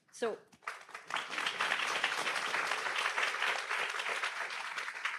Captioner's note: audience applauds